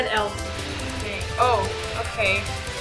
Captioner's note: surprised